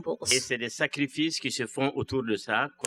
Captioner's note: speaking french